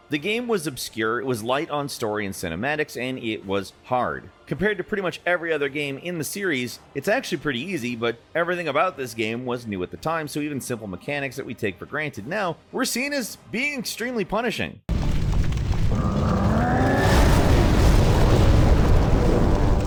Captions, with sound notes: The game was obscure, it was light on story and cinematics, and it was hard. Compared to pretty much every other game in the series, it's actually pretty easy. But everything about this game was new at the time, so even simple mechanics that we take for granted now were seen as being extremely punishing. (flames crackling) (monster growling) (tense dramatic music) (blow smashing)